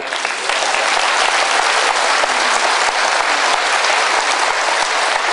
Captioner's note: applause